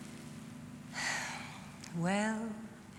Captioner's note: sighs